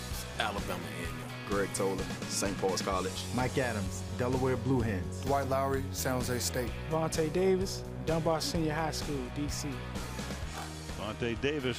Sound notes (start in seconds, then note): none